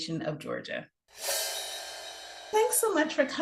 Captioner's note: air whooshing